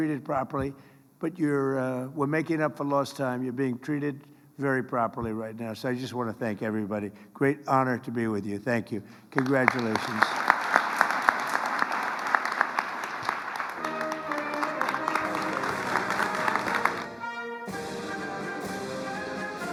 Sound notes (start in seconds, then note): 9.3 applause